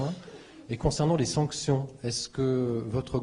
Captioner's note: in French